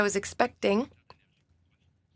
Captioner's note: speaking in French